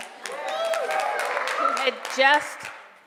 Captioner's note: cheering and applause